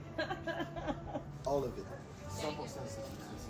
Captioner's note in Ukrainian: сміх